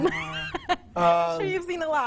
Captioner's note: laughs